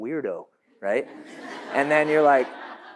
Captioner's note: audience laughs